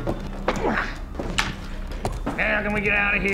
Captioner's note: grunts